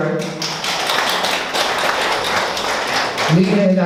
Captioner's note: audience applauds